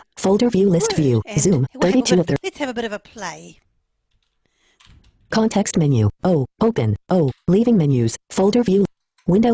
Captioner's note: JAWS screenreader reading